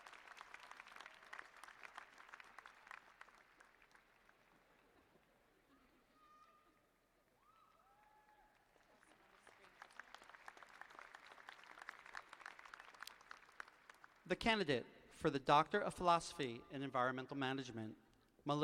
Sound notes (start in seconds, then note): 0.0 applause; 0.7 laughter; 9.7 applause